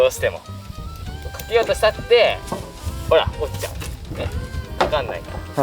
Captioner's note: laughs